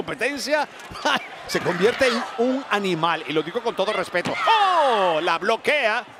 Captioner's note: laugh